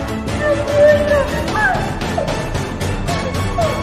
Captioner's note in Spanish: grita